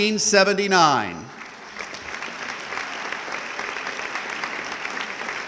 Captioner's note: audience clapping